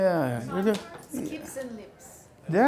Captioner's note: voiceover